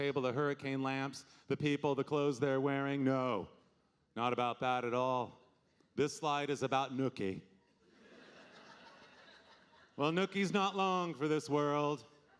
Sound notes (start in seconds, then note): 7.9 audience laughing